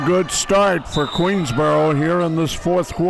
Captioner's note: whistle blows